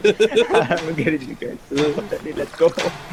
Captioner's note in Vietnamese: tiếng cười